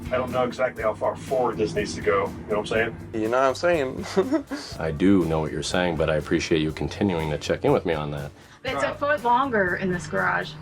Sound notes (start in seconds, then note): 3.8 chuckles